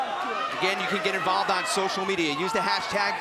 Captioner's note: crowd chatter